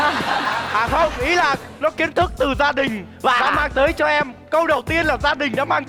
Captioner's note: laughing